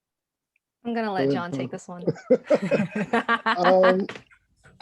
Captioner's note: all laugh